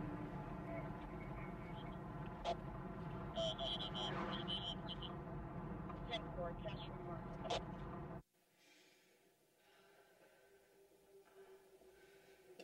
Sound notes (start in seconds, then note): 1.3 police Radio Chatter; 8.5 heavy Breathing